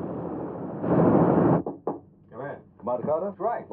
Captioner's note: knocking